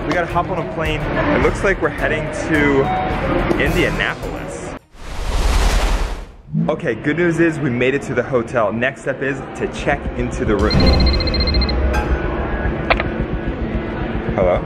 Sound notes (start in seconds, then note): 10.4 suspenseful music; 10.6 phone ringing